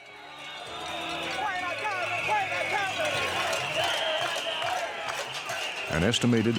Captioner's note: people shouting